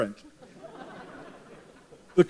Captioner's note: laughter